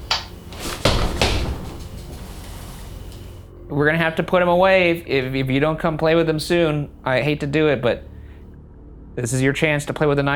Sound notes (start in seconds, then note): 0.0 stamps